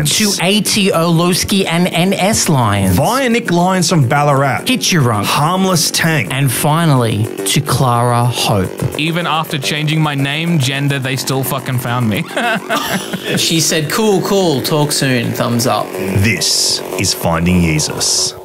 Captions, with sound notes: To A.T Orlowski and N.S Lyons, via Nick Lyons from Ballarat, Hiturunk, HarmlessTank, and finally to Clara Hope. - “Even after changing my name, gender they still fuckin found me” (laughing) (electronic music) - She said, "Cool, cool, talk soon, thumbs up." - This is Finding Yeezus